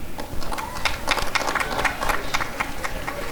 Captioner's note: applause and cheering